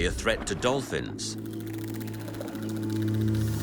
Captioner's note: dolphins clicking